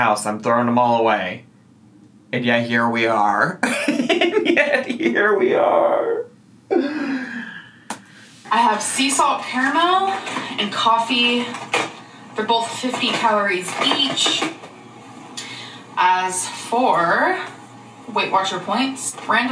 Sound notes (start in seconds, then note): 3.6 laughs